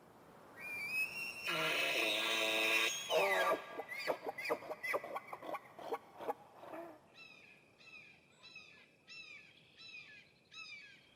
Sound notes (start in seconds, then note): 1.0 elk bugles; 7.4 birds chirping